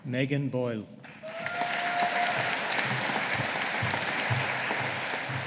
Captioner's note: audience applauding